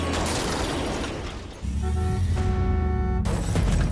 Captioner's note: thudding; shattering; car horn honking